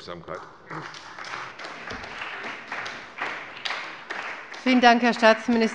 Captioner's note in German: Beifall bei der CDU und dem BÜNDNIS 90/DIE GRÜNEN